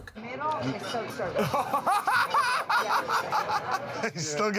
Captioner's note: laughter